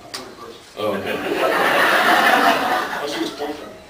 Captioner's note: laughs